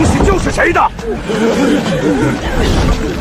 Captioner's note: grunting labor sounds